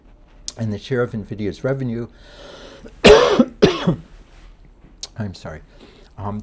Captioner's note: lecturer coughing